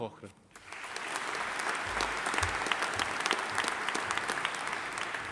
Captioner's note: audience applauding